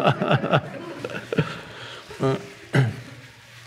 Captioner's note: Eckhart laughs